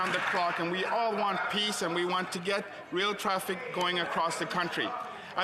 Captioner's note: applause